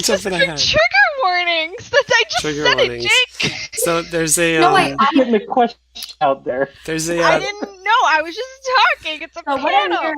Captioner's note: laughs